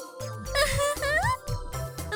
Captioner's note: giggle